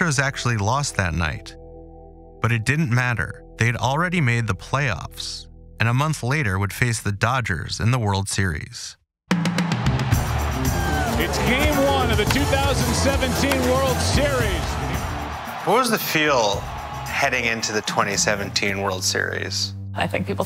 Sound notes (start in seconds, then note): 10.0 crowd cheering